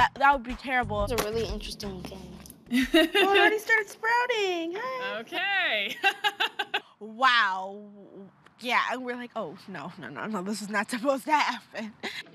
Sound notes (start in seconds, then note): 5.8 laughs